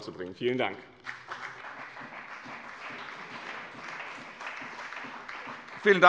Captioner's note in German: Beifall bei dem BÜNDNIS 90/DIE GRÜNEN und der CDU